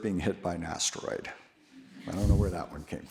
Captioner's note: audience laughs